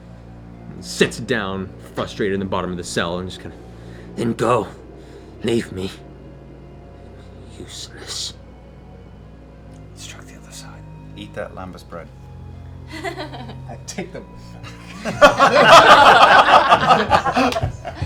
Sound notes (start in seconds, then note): 0.0 heavy sigh; 9.1 whispering; 14.6 laughter